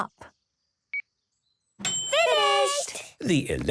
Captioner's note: dings